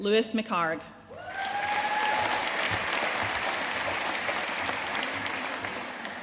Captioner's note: audience cheering and applauding